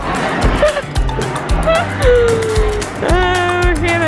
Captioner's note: laughter